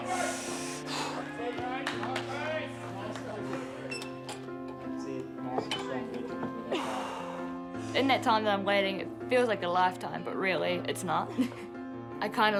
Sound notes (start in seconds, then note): 0.0 inhales and exhales forcefully; 6.7 exhales and inhales forcefully; 11.8 chuckles